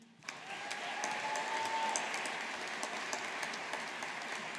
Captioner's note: audience applauding